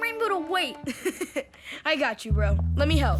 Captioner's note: laughing